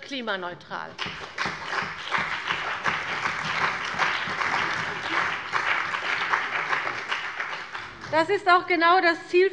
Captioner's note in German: Beifall bei der CDU und dem BÜNDNIS 90/DIE GRÜNEN